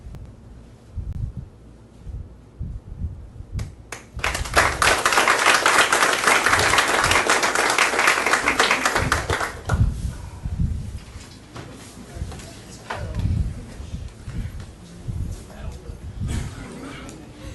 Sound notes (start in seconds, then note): 4.0 audience applauding; 11.4 background chatter